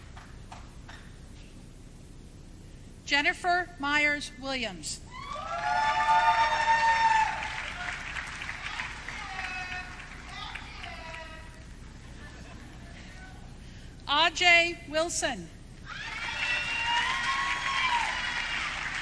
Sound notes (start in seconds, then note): 10.2 audience cheering